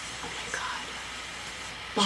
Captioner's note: whispers